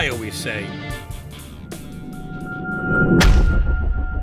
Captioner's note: smash